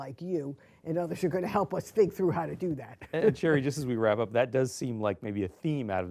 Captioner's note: laughs